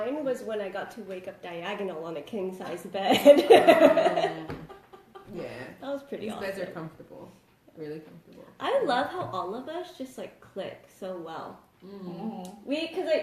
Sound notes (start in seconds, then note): 3.3 laughs